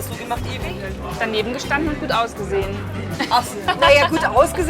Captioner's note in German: lachend